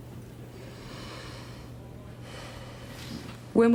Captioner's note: breathes in deeply